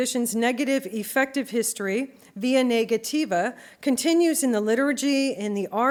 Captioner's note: non-english speech